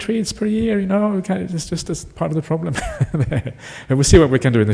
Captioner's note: laughs